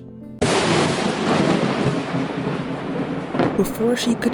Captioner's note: thunder and lightning